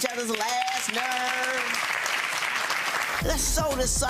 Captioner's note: audience applauding